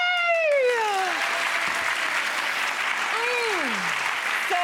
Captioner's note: audience applauds